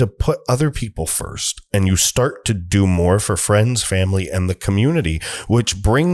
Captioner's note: breath